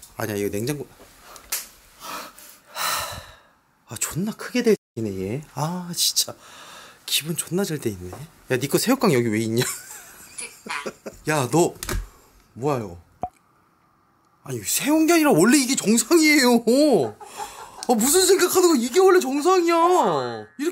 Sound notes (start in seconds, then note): 2.0 exhalation; 2.6 deep exhalation